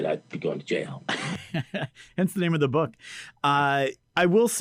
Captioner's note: laughs